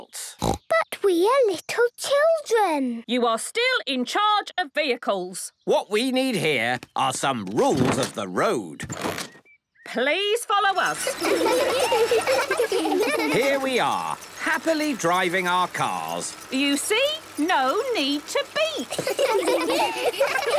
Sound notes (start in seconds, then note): 0.3 snorting; 10.8 laughter; 18.9 laughter